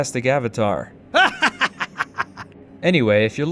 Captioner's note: Spy laughing